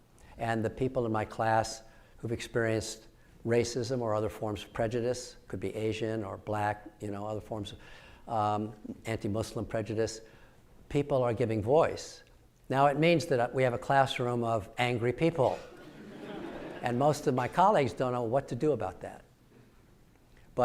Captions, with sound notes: and the people in my class who've experienced racism or other forms of prejudice could be Asian or black other forms of anti-Muslim prejudice. People are giving voice. Now it means that we have a classroom of angry people. (audience laughing) And most of my colleagues don't know what to do about that.